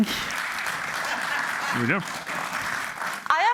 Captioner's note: applause